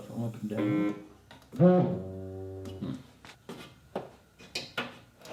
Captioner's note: printer droning